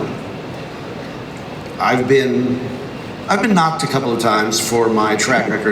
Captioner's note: none